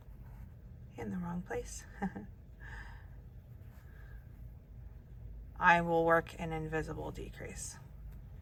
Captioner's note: laughs